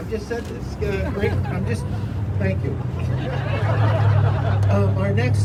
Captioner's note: crowd laughing